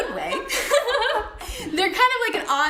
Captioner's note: laughing